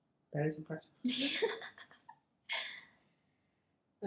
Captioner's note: laughs